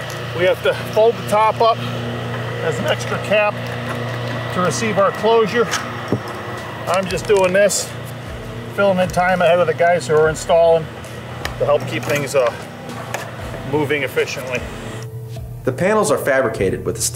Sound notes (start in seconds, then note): 1.8 machine rumbling; 5.7 machine rumbling; 14.8 soft music